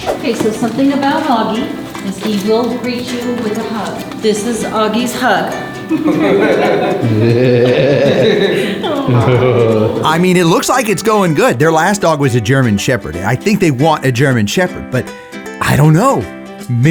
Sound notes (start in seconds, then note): 5.8 couple laughs; 5.9 laughs